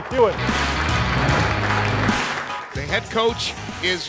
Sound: applause

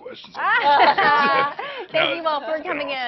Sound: laughing

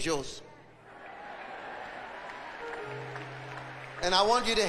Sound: audience cheering

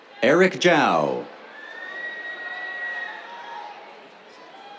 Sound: whistles

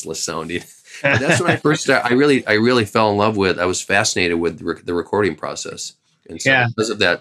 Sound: laughter

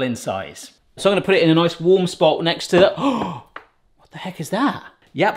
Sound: gasps

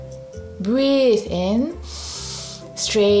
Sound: breathes in deeply

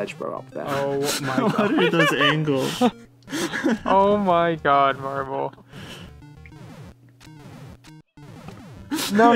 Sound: general sounds of disbelief

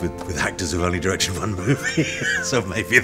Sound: laughs

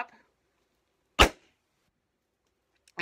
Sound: popping

